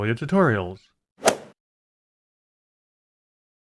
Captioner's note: swoosh